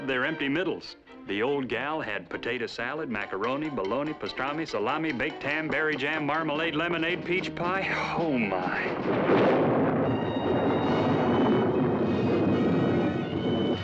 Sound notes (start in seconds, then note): 7.3 sighs; 8.0 thunderclap